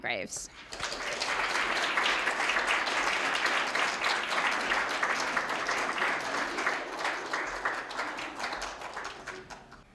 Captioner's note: applause